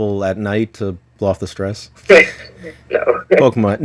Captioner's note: laughs